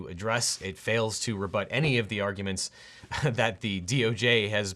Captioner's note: chuckles